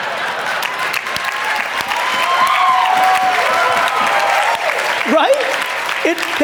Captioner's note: audience cheering and clapping